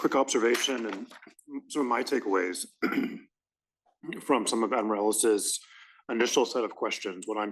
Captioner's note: cough